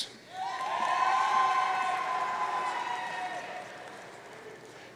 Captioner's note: audience cheering